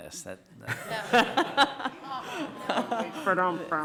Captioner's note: members laughing